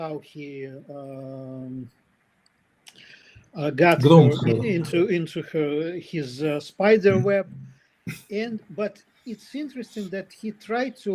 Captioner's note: прочиства гърло